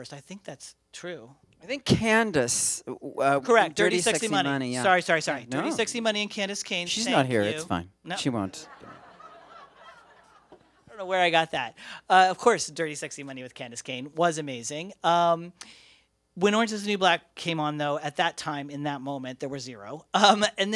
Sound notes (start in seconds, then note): 8.6 laughter